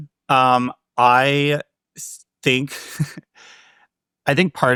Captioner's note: chuckles